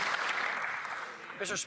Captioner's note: applause